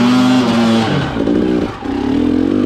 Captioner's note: engine roaring